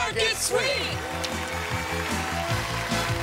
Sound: cheering

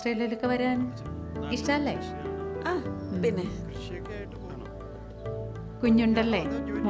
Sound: none

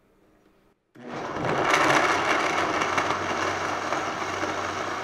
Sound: blender buzzing

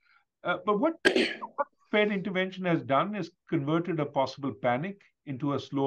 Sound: cough

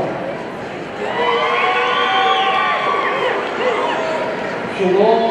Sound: audience cheering

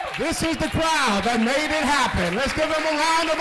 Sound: applause

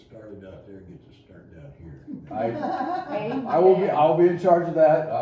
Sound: laughter

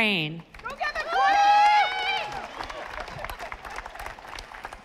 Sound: audience applauding

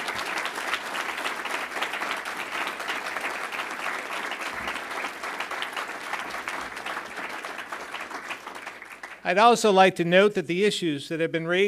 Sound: applause

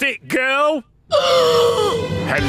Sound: gasps

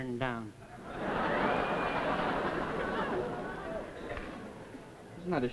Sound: audience laughs

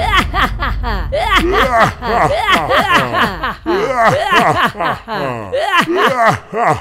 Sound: laughing

